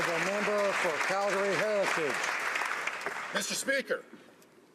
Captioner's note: some Applause